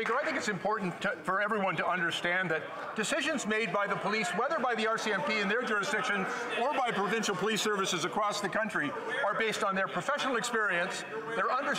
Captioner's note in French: applaudissements